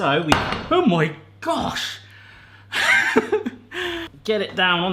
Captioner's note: laughs